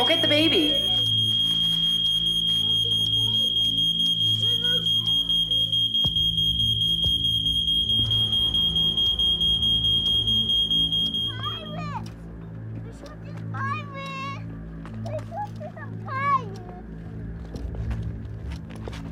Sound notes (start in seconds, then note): 3.0 beeping continues